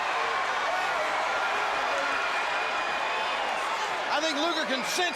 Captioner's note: crowd cheering